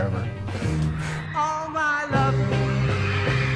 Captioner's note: chuckles